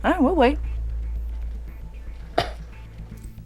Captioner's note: scoffs